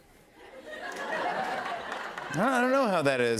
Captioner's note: laughter